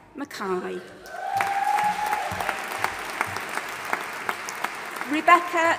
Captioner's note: audience applauding and cheering